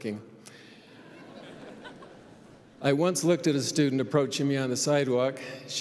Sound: laughter

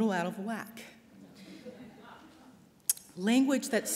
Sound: laughter

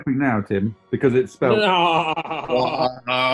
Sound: laughing; brays

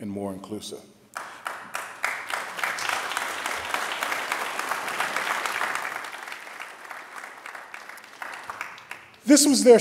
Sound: applause

